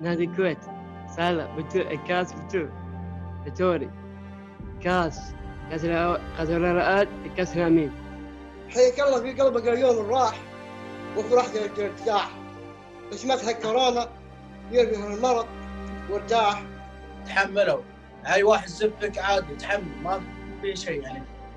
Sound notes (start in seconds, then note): 8.8 recites poetry